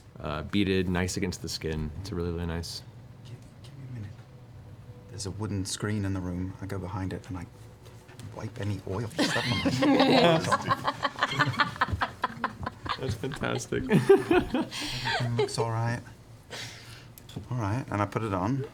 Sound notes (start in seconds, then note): 3.3 quietly; 9.1 laughter